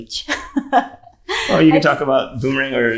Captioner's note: speaker laughing